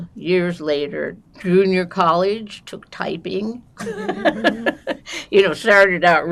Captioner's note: laughing